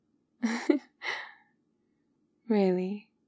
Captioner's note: laughs